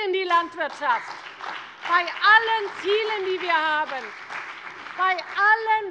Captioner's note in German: Beifall bei der CDU und dem BÜNDNIS 90/DIE GRÜNEN